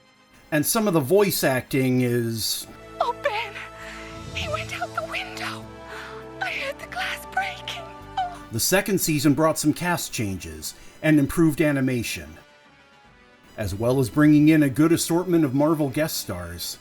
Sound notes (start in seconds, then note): 2.9 hysterically, high-pitched